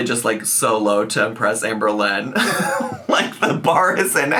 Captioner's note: laughs